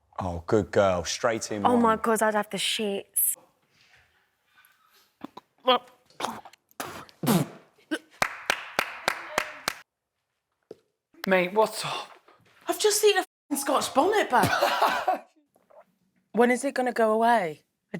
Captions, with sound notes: Oh, good girl, straight in. Oh my god, I have the s***s. [GAGS] [SPITS] [CLAPS] Mate, what's up? I've just eaten a f*****g Scotch bonnet, babes. [LAUGHS] When is it going to go away?